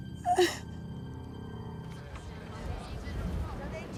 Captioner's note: cries